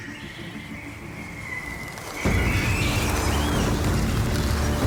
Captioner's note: fluttering